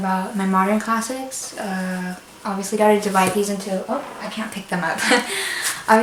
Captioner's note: laughs